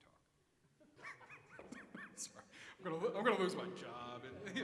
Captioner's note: chuckles